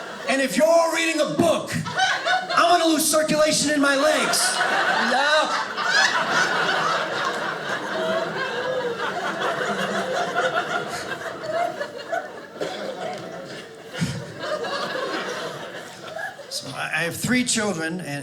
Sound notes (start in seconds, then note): 6.2 audience laughing